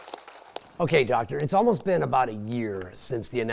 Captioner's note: applause